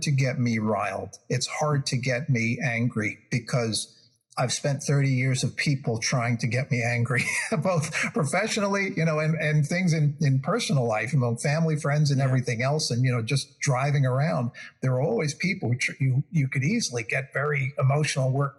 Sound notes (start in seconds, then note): 6.8 laugh